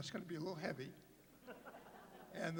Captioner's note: laughter